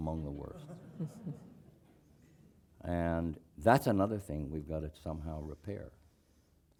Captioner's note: laugh